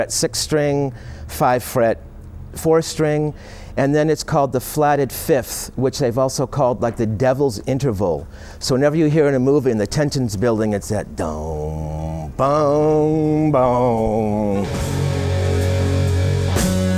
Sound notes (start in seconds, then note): 11.1 humming